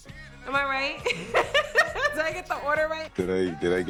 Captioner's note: laughs